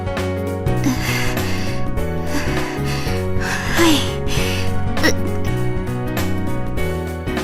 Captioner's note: breathing